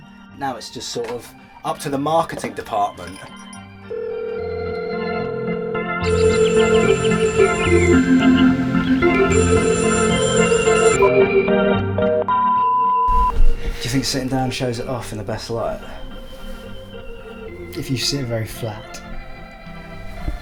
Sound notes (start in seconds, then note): 3.8 phone ringing; 6.0 phone ringing + upbeat carnival style music; 10.9 phone hangs up